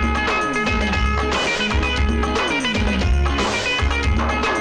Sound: none

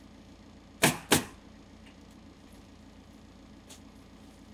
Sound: nail gun bangs

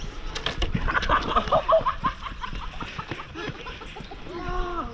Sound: laughs

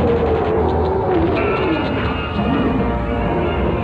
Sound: King Kong Growls

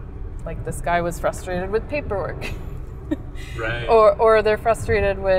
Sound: laughing

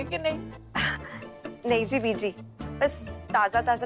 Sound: chuckle

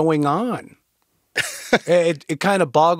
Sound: chuckles

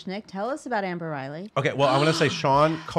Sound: gasping

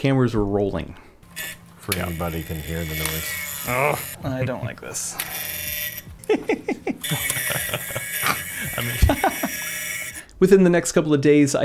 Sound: lots of buzzing

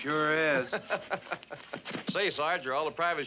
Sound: Stark laughs

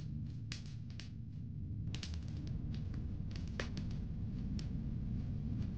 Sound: fire crackling

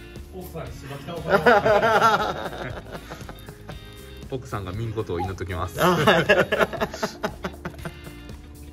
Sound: laughs

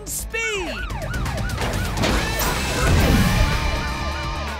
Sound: siren wailing

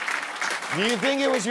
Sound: applause

